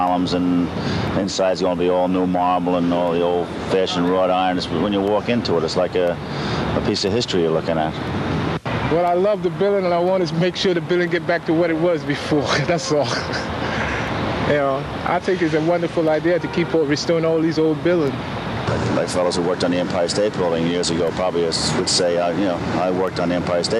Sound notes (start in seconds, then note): 12.4 laughter